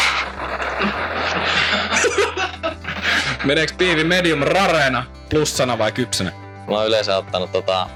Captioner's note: laughter